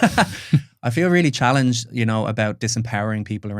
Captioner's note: laughs